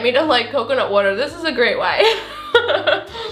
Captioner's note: chuckles